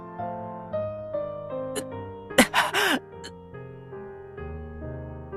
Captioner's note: gasp